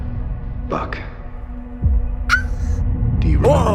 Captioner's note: squeals slightly